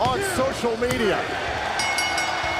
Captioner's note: bell ringing